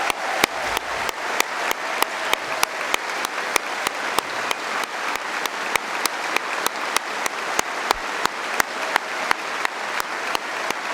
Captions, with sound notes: (Applause) Finally, my parliamentary Private